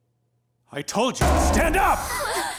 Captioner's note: slams; students gasp